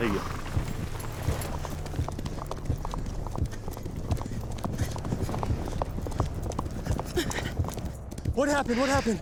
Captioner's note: hoofbeats